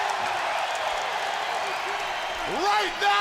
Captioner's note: crowd cheering